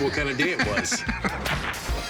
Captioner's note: laughs